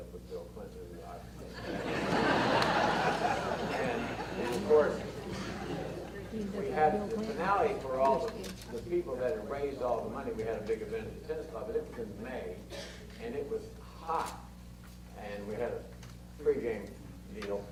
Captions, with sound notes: they teamed up with Bill Clinton and his wife. (audience laughter) And of course, we had the finale for all the people that raised all the money, we had a big event at the tennis club this is in May. And it was hot, and we had a free game meal,